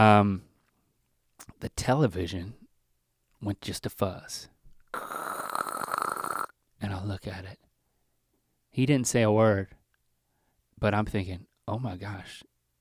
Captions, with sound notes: The television went just to fuzz. (mimics static crackling) And I look at it. He didn't say a word but I'm thinking oh my gosh,